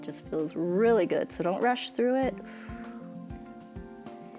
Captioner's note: exhales